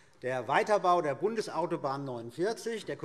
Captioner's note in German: none